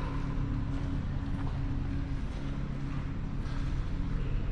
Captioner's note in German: Tunnelecho